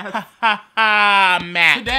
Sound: uncomfortable laughter

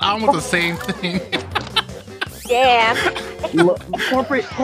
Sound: continue laughing

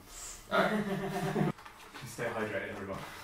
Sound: laughter

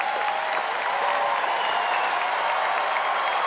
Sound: audience applauding

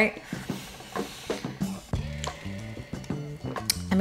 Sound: inhales deeply

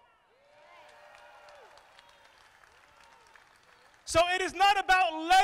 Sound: crowd applauding

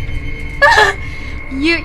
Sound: laughs

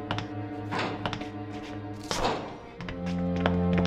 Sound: door closes

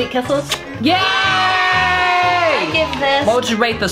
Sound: children cheering

